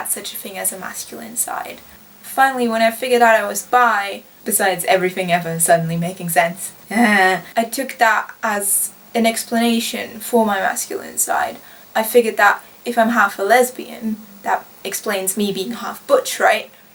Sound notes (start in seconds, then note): 5.2 growns